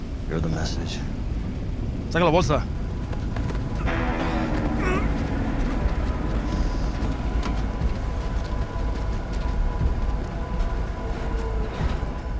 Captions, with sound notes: You're the message. [SPANISH] [GROANING]